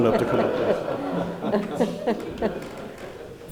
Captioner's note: laughing